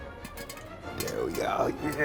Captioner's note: kernels pop; bright music